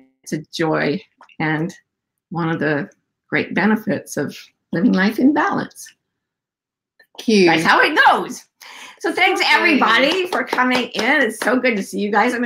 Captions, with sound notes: It's a joy and one of the great benefits of living life in balance. - Cute. - That's how it goes! So thanks everybody for coming in (claps), it's so good to see you guys.